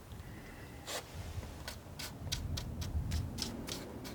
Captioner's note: scratching